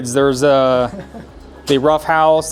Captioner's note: participant chuckling distantly